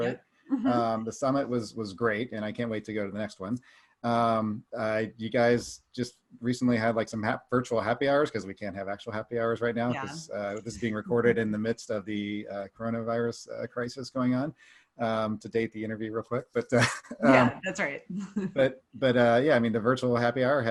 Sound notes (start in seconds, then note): 15.0 laughs lightly; 18.3 chuckles